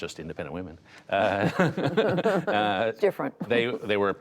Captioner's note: laughter